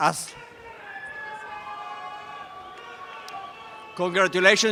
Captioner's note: audience cheering and applause